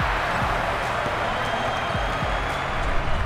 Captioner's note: crowd cheers